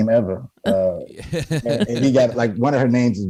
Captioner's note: laughs